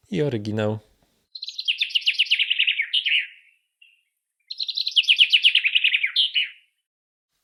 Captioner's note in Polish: Oryginalny dźwięk ptaków